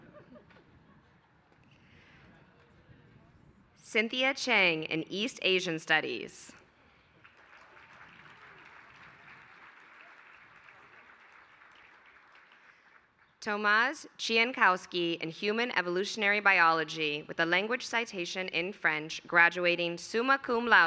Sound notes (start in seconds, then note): 7.0 applause